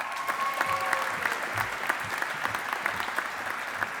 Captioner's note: audience applauding